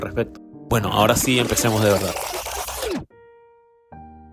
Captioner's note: rewind sounds